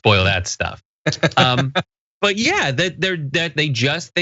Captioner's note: laugh